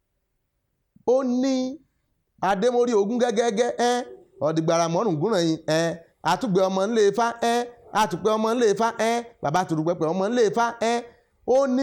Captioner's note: chants